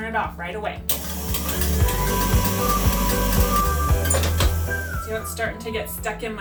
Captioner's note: soft gentle music; dough mixer whirring